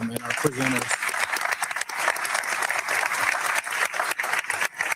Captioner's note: audience clapping